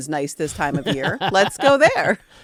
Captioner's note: laughing